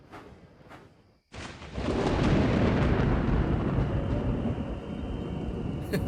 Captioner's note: thunder rumbles